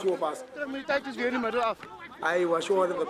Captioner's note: speaking in afrikaans